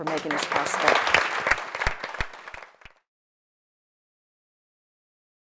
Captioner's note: audience applauds